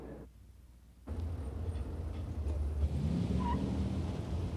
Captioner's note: car engine revving